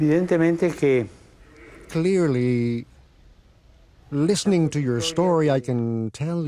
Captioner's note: speaking foreign language